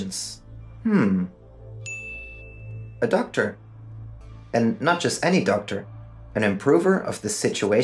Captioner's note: ping